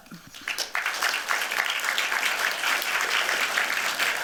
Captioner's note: applause